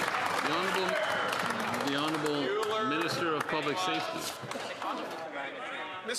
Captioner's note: some Applause